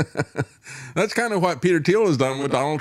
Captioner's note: laughter